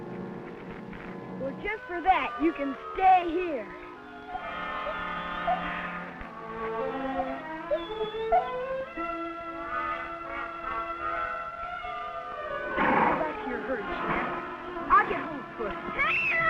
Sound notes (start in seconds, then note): 4.4 Rebel whining; 16.0 screams